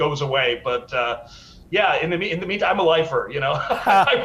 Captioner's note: laughs